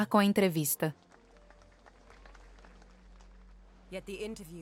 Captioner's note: audience applauds